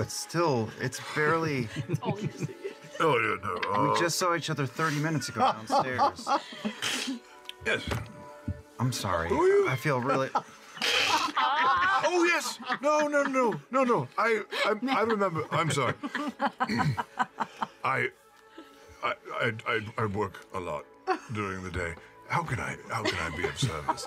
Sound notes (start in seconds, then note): 16.2 clears his throat